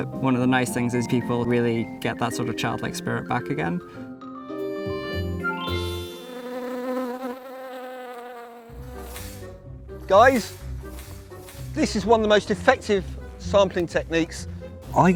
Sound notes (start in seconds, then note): 5.4 bee buzzing; 8.7 lively trumpet music; 10.3 net swishing